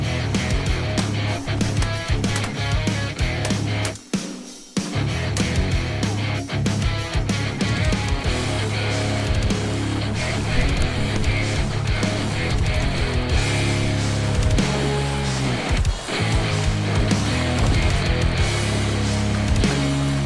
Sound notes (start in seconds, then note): 0.1 upbeat guitar rock music; 0.4 rapid gun shots; 5.1 upbeat guitar rock music; 5.1 water splashing; 10.0 upbeat guitar rock music; 10.0 water splashing; 15.0 upbeat guitar rock music; 15.0 water splashing; 20.0 upbeat guitar rock music; 20.0 water splashing